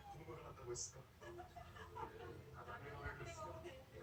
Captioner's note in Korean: tv소리